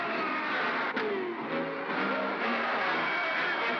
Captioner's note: thump; sounds of battle; suspenseful music